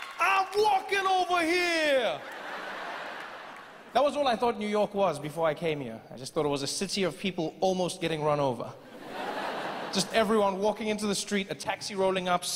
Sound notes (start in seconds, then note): 2.1 audience laughing; 8.8 audience laughing